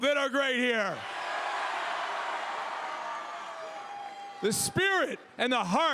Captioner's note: crowd cheers